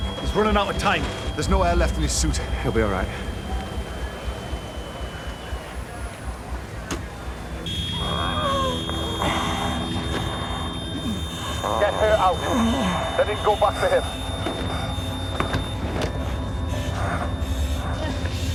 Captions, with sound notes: He's running out of time. There's no air left in his suit. He'll be all right. (HE GASPS FOR AIR) [Tim over radio] Get her out, then you can go back for him.